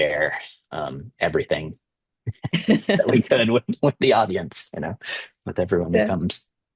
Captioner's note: laughter